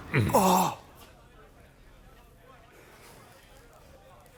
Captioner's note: groaning